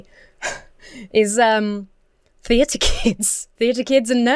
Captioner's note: chuckles